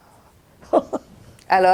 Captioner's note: laughing